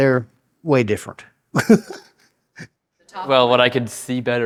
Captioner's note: laughs